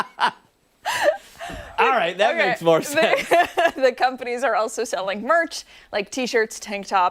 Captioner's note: laughter